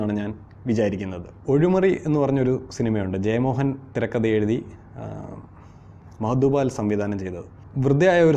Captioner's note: malayalam